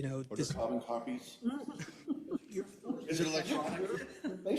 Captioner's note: laugh